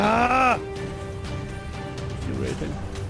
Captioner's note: groans; under his breath